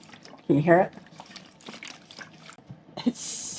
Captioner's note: water sloshing